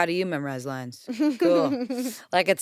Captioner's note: laughs